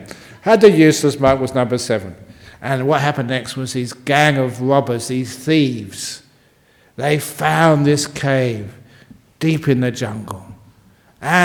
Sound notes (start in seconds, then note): none